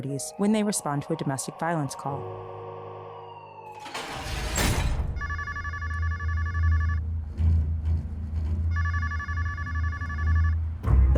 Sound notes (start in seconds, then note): 3.2 sirens wailing; 3.7 metal door clanks; 5.1 phone ringing; 8.7 phone ringing